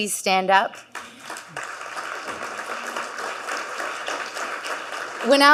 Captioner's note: audience clapping